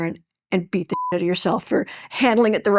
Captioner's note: beep